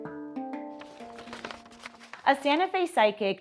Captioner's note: paper crinkling